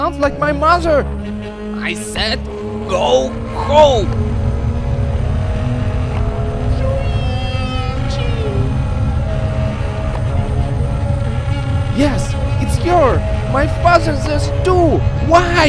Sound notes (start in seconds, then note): 6.8 screams